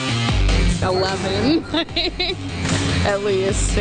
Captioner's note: laughs